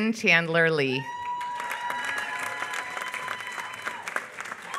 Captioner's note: applause